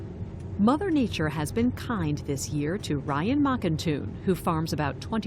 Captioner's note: voice-over